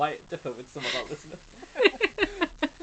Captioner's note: laughing